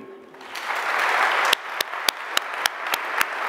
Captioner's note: applause